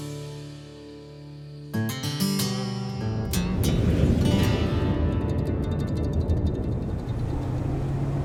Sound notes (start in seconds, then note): 3.4 car driving